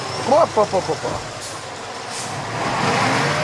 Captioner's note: foreign language